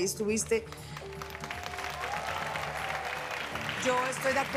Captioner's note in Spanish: aplausos